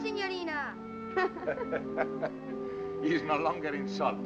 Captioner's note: both laugh